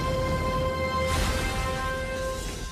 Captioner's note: crash